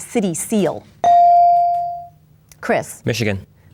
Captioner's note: bell dings